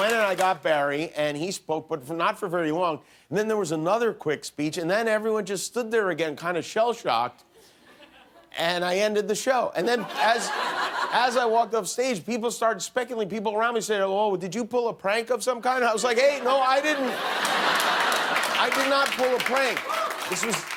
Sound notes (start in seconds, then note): 9.9 laughter